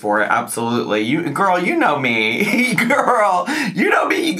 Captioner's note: laughs